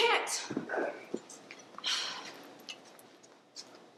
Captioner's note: sighs